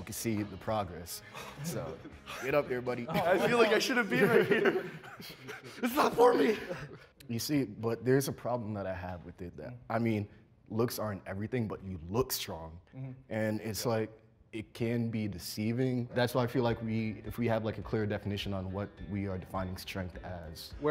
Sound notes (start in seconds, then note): 1.3 laughs